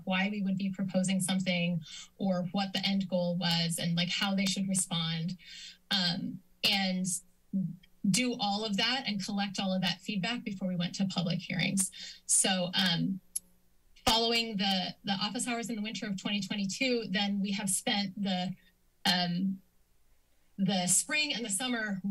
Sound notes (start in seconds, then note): 12.9 clicks tongue